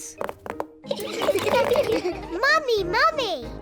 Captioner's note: all laugh